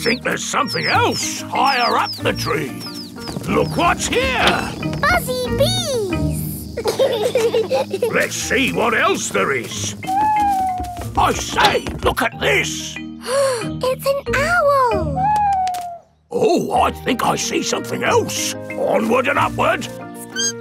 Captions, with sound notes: I think there's something else higher up the tree. Look what's here! Buzzy bees! (BEES BUZZING) Let's see what else there is. (OWL HOOTING) I say, look at this! (GASPS) It's an owl! Oh, I think I see something else. Onward and upward!